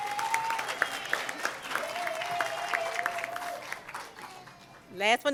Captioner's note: cheering and Applause